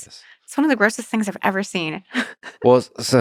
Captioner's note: laughs